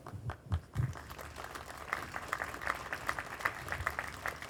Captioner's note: group applauding